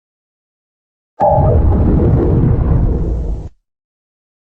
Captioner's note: Zalgo Windows XD Random Edition Shutdown Sound